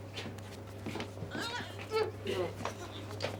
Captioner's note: both grunting